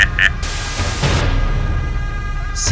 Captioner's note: evil laughter; TV turns off